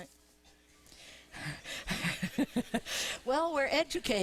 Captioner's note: laughter